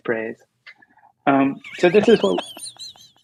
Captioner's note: laughter